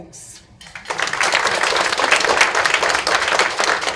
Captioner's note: audience claps